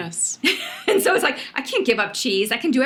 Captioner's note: laughs